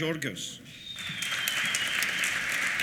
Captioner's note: applause